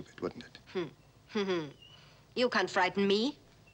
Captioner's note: Elissa chuckles